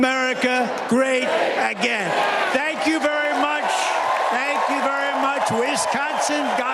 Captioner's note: cheers and applause